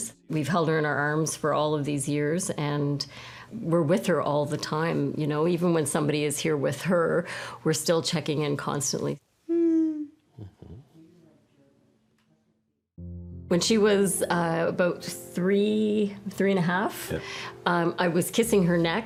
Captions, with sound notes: We've held her in our arms for all of these years, and we're with her all the time. Even when somebody is here with her, we're still checking in constantly. [moaning] When she was about three, 3 and 1/2, I was kissing her neck,